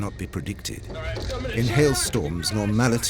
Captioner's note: passengers shouting